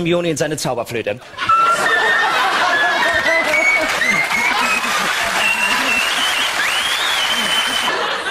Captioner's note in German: Applaus und Gelächter